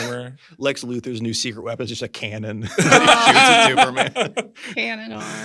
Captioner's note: laughter